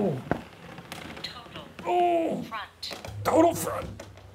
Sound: grunts

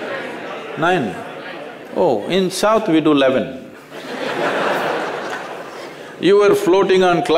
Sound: laugher

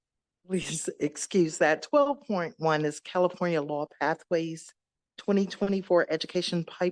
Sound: giggle

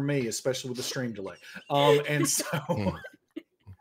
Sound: laughs; players laughing

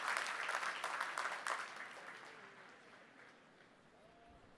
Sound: applause

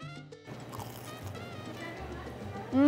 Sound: churro crunching

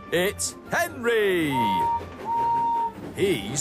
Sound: henry whistles

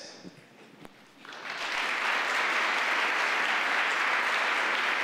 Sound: applauding

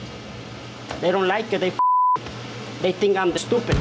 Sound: beep

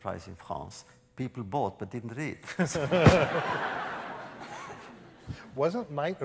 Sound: laughter

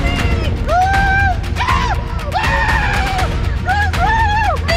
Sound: screams

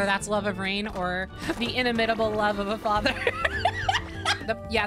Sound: laughter

